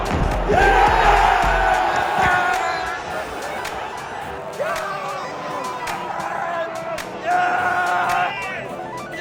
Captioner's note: fans celebrating another goal